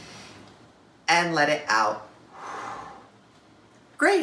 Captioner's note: inhale; exhale